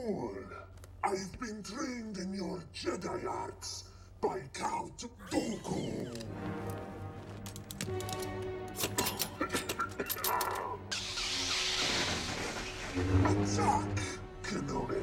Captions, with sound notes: I'VE BEEN TRAINED IN YOUR JEDI ARTS BY COUNT DOOKU. [ Coughing ] ATTACK, KENOBI.